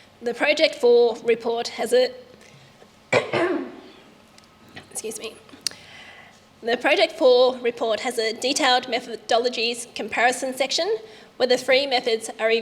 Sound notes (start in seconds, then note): 3.1 coughs